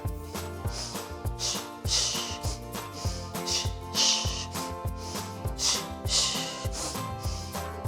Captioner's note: deep breaths